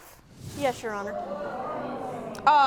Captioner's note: audience murmuring